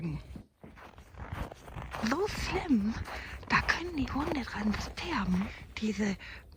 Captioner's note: steps crunch in the snow